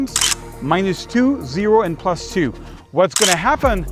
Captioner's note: camera shutter clicks